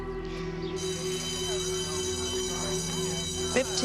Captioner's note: bell ringing